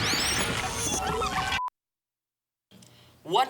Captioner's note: beeping